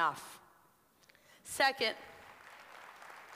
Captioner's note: applause